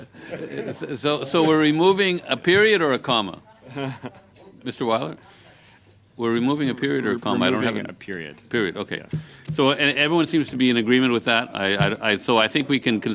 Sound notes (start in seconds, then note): 3.7 laughter